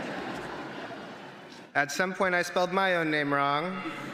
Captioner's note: laughter